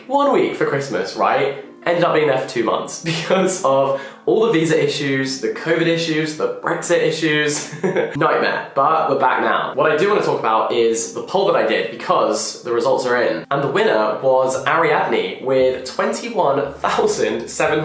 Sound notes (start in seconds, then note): 7.6 laughs